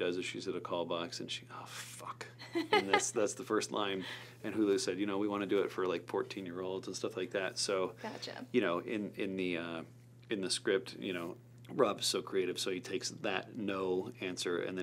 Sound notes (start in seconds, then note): 2.4 laughs